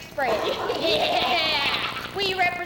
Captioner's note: woman laughing